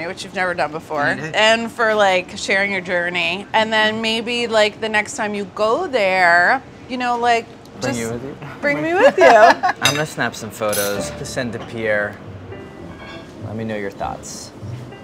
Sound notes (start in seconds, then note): 9.4 laughs